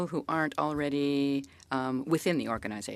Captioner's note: speaking French